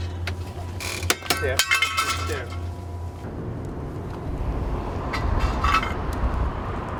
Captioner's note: metal clanking